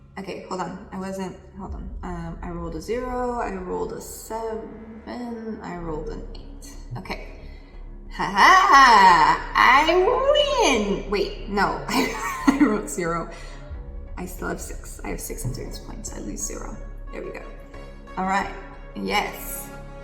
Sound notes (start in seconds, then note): 11.9 laughs